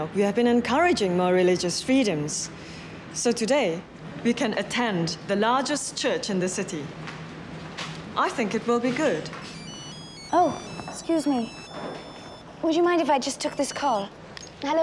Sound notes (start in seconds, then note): 9.4 phone rings